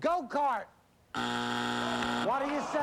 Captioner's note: buzzer